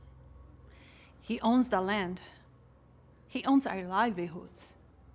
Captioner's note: none